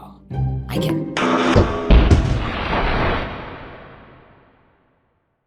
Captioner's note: bonk--crash--slam